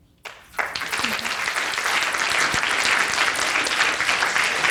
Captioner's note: audience applauding